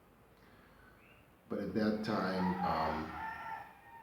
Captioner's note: rooster crowing